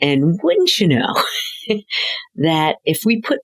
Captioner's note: laughing